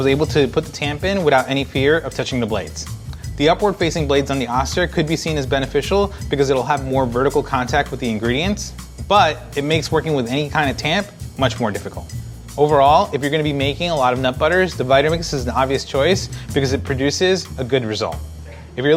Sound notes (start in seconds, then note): none